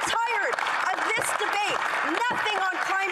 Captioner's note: applause